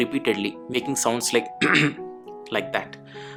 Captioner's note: clears throat